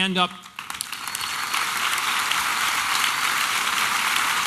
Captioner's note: applause and cheering